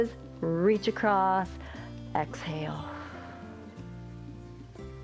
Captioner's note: exhales